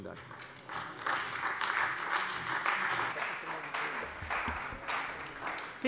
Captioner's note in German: Beifall bei der CDU und dem BÜNDNIS 90/DIE GRÜNEN